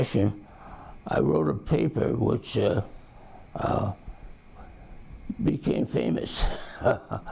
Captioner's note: chuckles